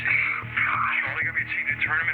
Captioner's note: on phone